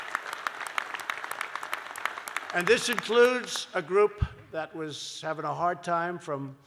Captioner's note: applause